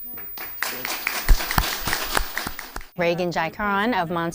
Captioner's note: clapping